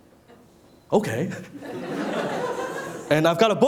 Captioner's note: laughing